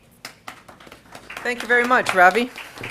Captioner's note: applause